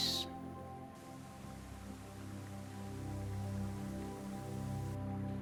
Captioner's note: water rushing; tranquil synthesizer music